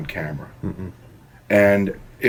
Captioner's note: grumbles to say no